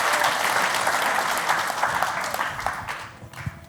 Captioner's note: applause